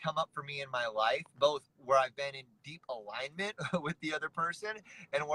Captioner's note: chuckles